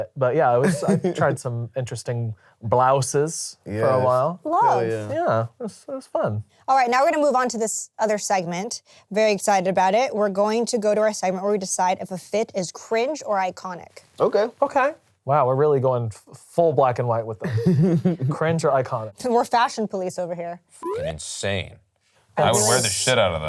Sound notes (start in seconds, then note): 17.6 laughs; 20.8 beep